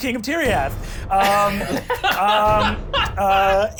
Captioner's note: laughs